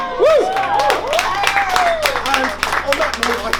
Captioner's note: wrestlers cheering; wrestlers applauding